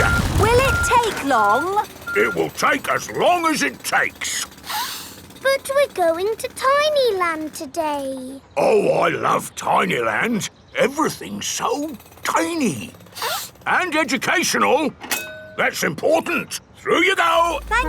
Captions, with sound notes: Will it take long? It will take as long as it takes! (SNIFFS) But we're going to Tiny Land today. Oh, I love Tiny Land! Everything's so tiny. (SNIFFS) And educational! That's important. Through you go!